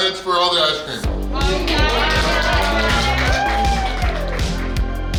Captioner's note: cheering & Clapping